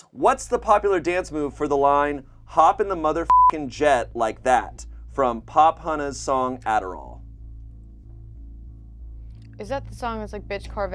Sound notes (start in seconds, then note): 3.2 beep; 7.5 slow suspenseful music